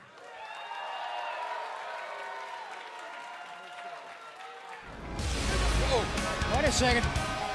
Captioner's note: cheers and applause